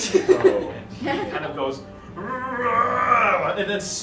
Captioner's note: growl